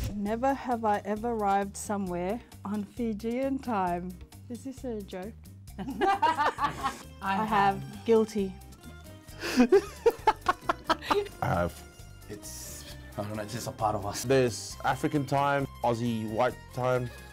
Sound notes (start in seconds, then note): 5.8 both laughs; 9.4 laughs